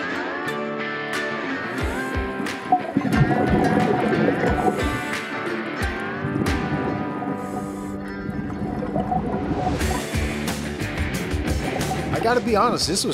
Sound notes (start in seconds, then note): 0.3 steady rock music; 3.0 water churning